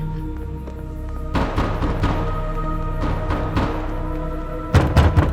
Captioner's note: hand knocking